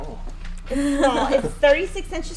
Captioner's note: laughing